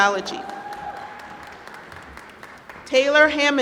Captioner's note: applause